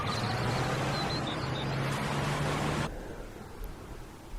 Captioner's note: city noise